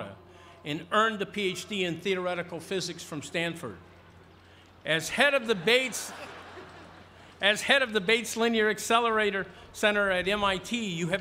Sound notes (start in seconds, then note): 4.8 crowd murmuring; 5.4 laughter